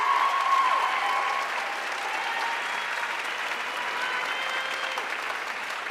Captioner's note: audience cheering and applauding